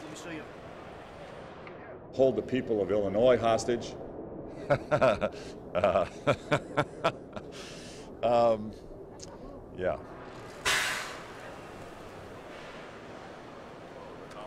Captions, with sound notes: Hold the people of Illinois hostage. (laughs) Yeah.